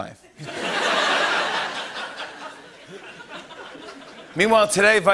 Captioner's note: laughter